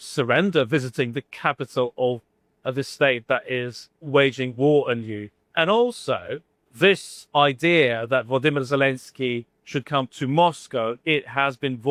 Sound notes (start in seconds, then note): none